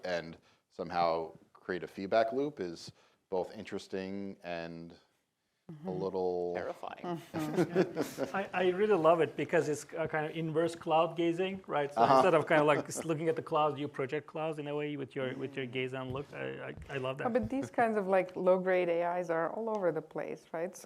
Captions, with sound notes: and somehow create a feedback loop is both interesting and a little-- Terrifying. [LAUGHTER] I really love it because it's kind of inverse cloud gazing, right? So instead of looking at the clouds, you project clause in a way with your gaze and look. I love that. But these kinds of low-grade AIs are all over the place, right?